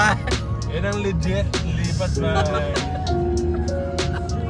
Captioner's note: laughter